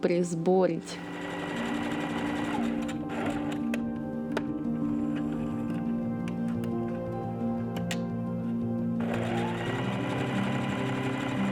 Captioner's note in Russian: стук швейной машины